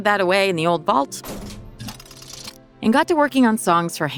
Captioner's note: vault lock clicks